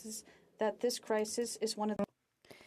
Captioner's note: speaking French